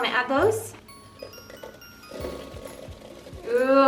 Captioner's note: soft tapping